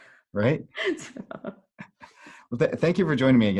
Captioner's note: both laughing